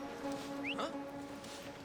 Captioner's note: whistle